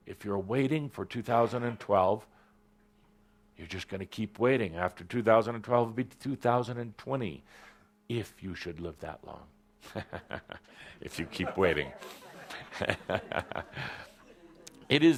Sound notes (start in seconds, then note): 9.8 chuckles